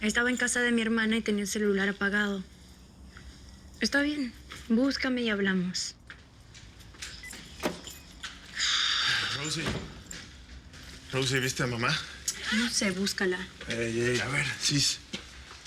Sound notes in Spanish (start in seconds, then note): 6.9 Sonido al abrir la puerta